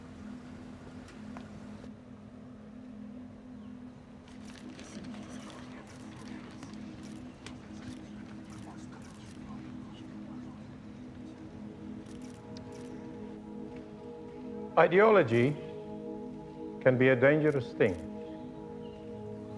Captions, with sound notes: (crowd whispering) (cameras clicking) Ideology can be a dangerous thing.